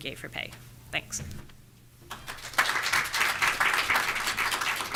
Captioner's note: audience clapping